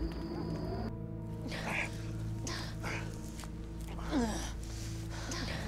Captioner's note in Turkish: Nefes sesleri